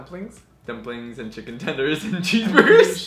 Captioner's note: laughs